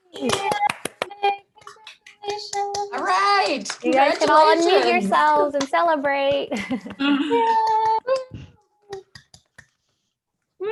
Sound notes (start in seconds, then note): 6.6 laughs; 7.0 group applauding